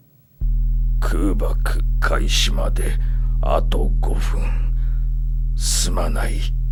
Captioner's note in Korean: 空爆